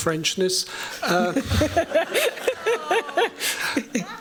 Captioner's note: laughter